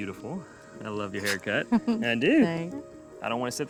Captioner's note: giggles